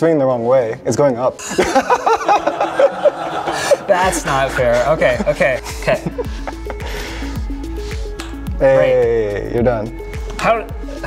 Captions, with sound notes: the wrong way, it's going up. (laughing) That's not fair, okay, okay, okay. Hey, you're done.